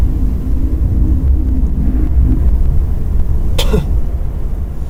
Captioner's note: coughing